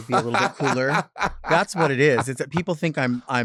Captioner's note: laughing